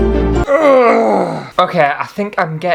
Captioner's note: groans!!!